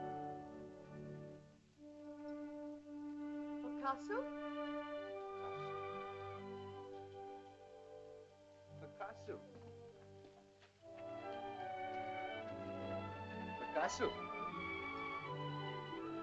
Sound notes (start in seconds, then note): 3.5 Loana says "Mother?" in caveman language; 6.4 soft music; 10.9 soft music